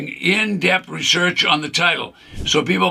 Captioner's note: screen whooshes